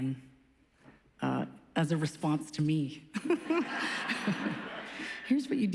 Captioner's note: laughs